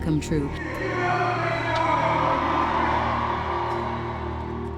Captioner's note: crowd applauds